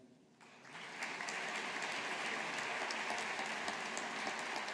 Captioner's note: audience applauding